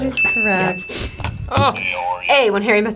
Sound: bell dinging

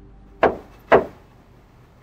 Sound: hammering

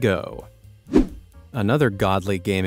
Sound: air whooshing

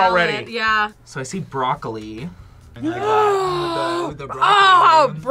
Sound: gasps

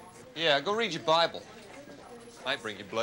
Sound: Steve scoffs

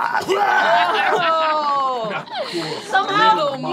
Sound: gagging; laughing

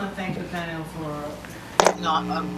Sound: woman's Voice

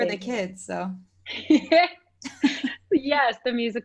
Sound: laughing

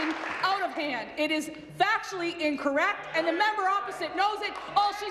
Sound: applause

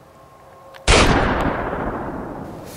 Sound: gunshot

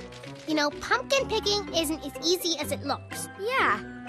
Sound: none

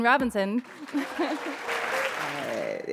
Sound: chuckle; applause; chuckle

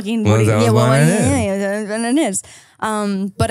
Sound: speaking in gibberish

